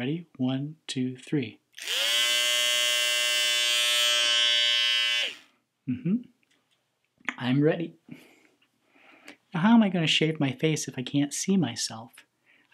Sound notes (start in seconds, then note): 1.8 shaver buzzes